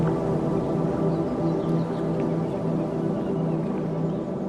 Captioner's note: birds chirping